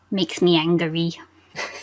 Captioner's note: laughs